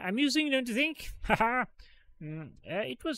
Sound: laughs

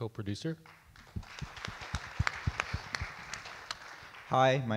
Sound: audience clap

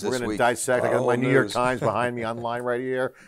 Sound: chuckles

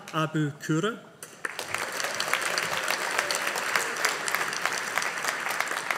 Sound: audience applauding

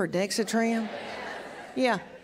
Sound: laughter

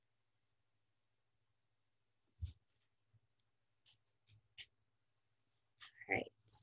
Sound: silence

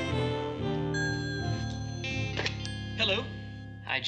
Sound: phone rings

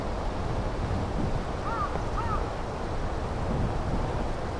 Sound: crow cawing

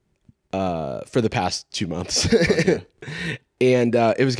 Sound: laughs

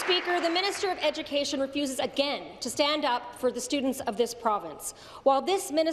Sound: applause

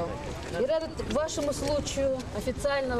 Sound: non-english speech

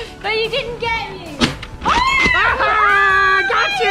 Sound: screams

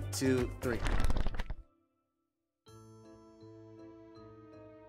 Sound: pages fluttering

